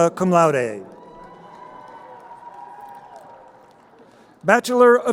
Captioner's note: crowd cheering